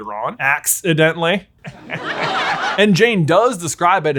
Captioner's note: laugh track plays